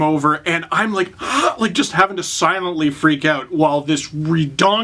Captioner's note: choked gasp